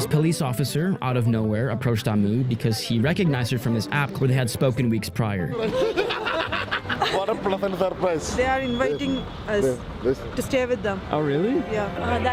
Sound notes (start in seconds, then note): 5.4 people laugh; 8.0 man speaks foreign language